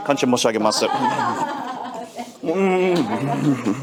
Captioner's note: laughing